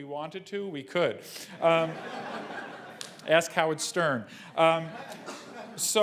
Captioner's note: laugh